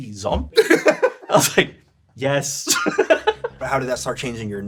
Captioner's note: laughs